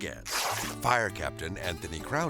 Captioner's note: page ripping